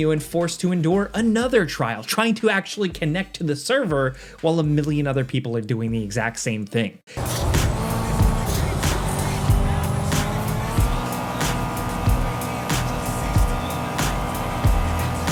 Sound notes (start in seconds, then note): 7.1 engine revving; 7.2 upbeat music